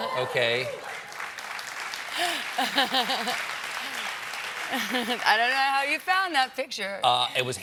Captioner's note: applause